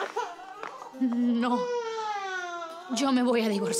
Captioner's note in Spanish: Llanto del niño